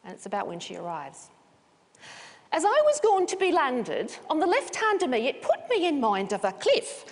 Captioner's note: reading with accent